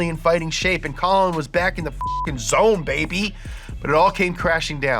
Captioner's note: beep